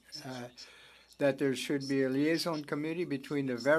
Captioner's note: speaking French